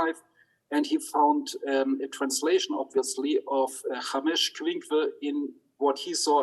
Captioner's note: speaks in Hebrew